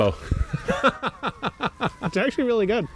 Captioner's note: both laughing